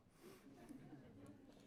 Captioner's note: laughter